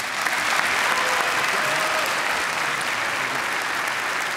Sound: applause

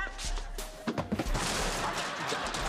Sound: crash!

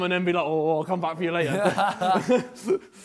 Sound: laughs

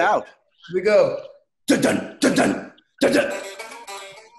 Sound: imitates drums

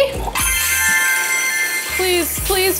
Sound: bright chiming

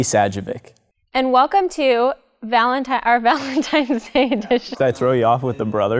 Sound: laughter

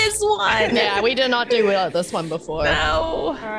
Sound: laugh

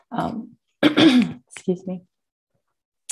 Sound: coughs

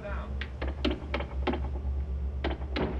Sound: tapping

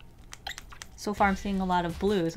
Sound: squishy sounds

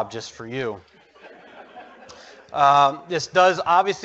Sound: audience laughs

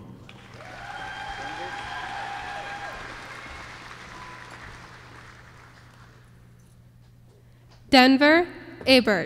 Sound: applause

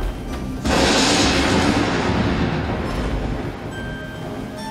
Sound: thunder rumbles

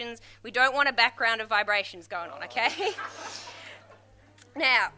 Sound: crowd laughs

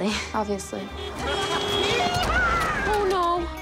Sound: car horn

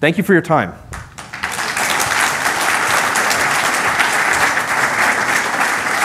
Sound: applause

